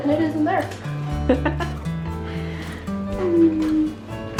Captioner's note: laughing